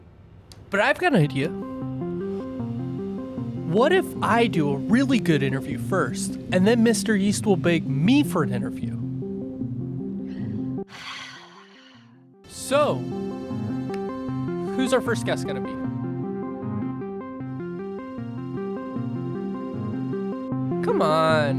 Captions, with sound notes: but I've got an idea. What if I do a really good interview first and then Mr. Yeast will beg me for an interview? (Sighs in Spanish) So, who's our first guest gonna be? Come on.